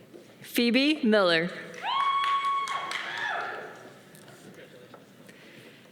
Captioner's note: audience cheering